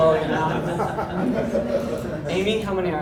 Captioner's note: audience laughs